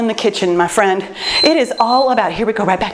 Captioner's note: timer beeps